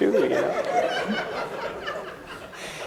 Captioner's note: laughter